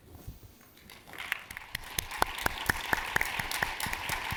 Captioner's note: audience applauding